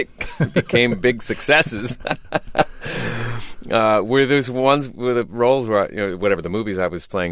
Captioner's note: laughter